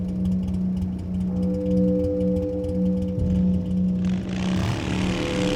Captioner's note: engine idling; engine roars